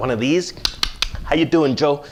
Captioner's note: mouth clicks